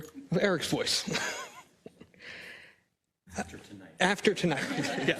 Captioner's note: laugh